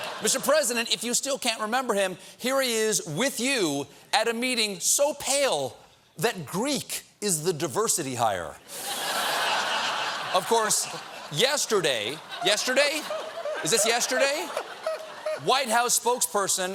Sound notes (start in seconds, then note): 8.6 laughter